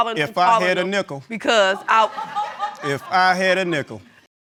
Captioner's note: audience laughs